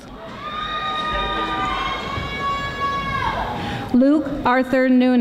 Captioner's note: audience applauding